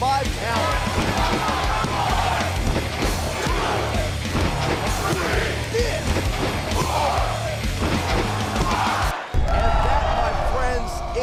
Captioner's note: crowd cheering